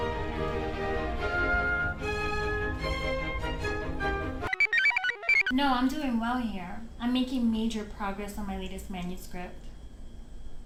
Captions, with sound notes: (computer chirps) - No, I'm doing well here. I'm making major progress on my latest manuscript.